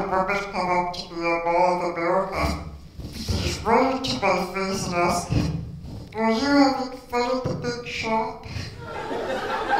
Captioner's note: laughter